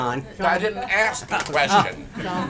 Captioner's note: laughter